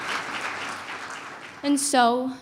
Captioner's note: applause